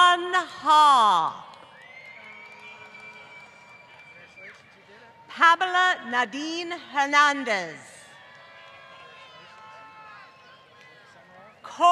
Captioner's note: applause